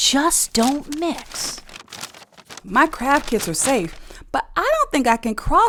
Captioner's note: paper bags rustling